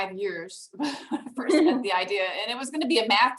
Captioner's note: laughs